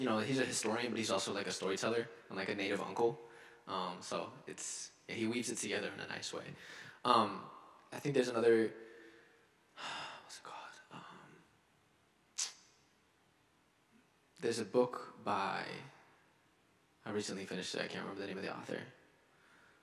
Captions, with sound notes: He's a historian but he's also like a storyteller and like a native uncle. So he weaves it together in a nice way. I think there's another, (sighs) what's it called? (clicks tongue) There's a book by, I recently finished it, I can't remember the name of the author.